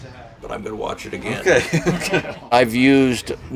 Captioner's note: laughs